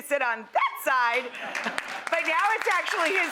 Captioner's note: audience applause